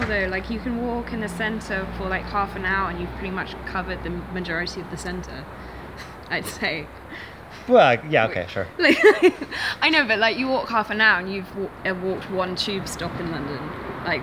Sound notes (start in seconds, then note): 6.0 chuckling; 8.8 laughing